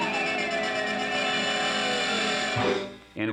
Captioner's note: horn honks; whistle tooting